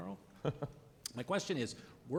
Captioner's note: laughing